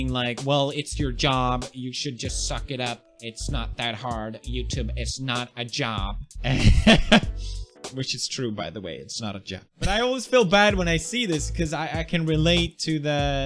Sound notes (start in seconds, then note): 6.5 laughs; 9.4 laughs again